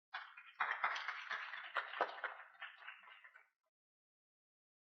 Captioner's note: audience applauding